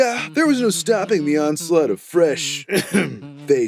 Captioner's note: clears throat